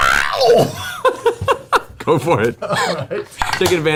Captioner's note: heavy metal screaming; laughs